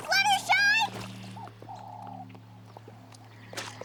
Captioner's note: owl hooting